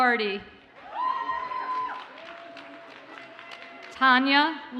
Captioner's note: audience cheers and applauds